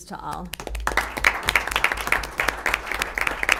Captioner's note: applause